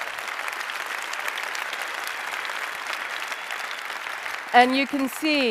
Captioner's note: applause